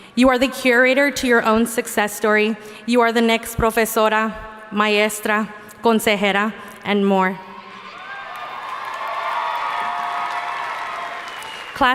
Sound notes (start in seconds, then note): 4.3 speaking in foreign language; 7.8 audience cheering and applauding